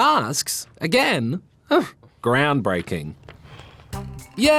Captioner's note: scoffs